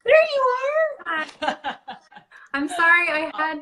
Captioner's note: laughing